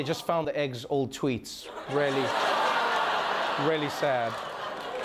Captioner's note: laughter